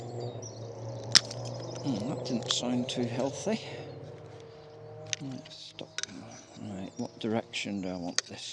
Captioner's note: cracking noise